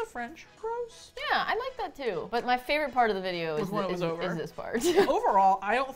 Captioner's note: laughs